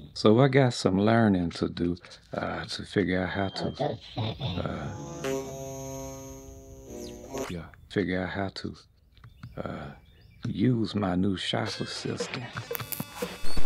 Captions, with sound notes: So I got some learnin to do uh to figure out how to- OTO SEVENNN. (Malfunction Sounds.) Figure out how to uh use my new shop assistant